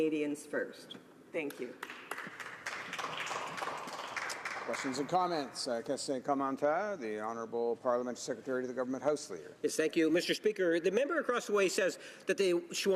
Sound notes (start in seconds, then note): 5.0 applause